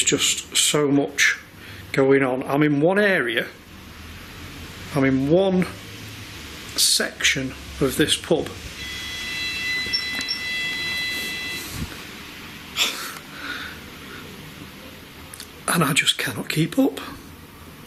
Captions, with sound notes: There is just so much going on. I'm in one area, I'm in one section of this pub. (machine beeping) And I just cannot keep up.